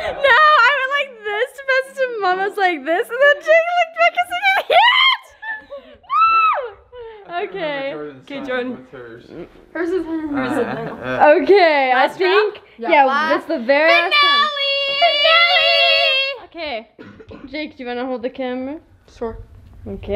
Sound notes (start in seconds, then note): 6.0 screaming